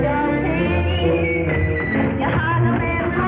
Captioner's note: whistles